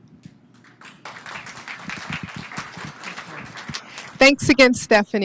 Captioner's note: applause